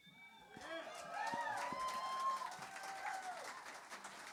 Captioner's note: applause